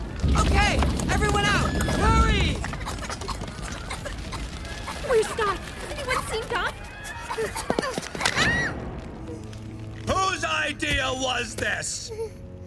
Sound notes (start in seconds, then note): 2.6 coughing; 8.2 screaming